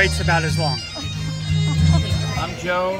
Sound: laughs

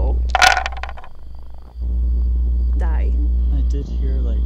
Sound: dice thumping

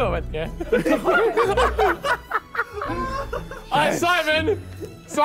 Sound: everyone laughing

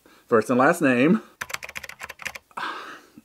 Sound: more typing

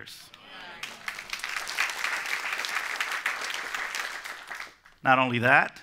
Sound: applause

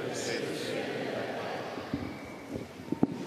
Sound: speaking French

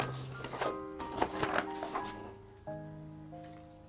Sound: paper Rustling

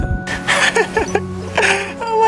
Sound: laughs nervously

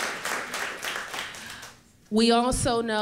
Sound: applause

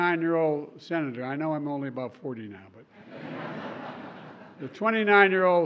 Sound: laughter

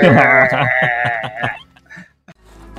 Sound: laughing

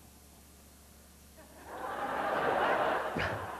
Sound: laughter

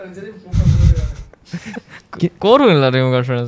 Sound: laughs

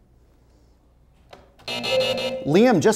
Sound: buzzer sounds

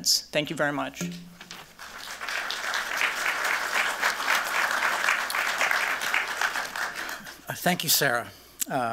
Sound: applause

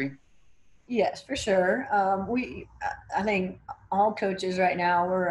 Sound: stammering

